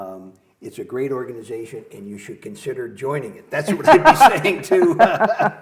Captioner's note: laughter